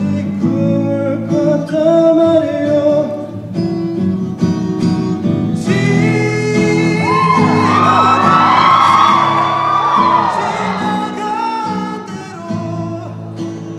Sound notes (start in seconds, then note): 7.0 cheering